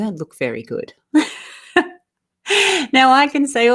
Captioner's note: laughs